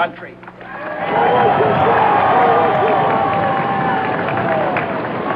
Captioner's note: crowd cheers and claps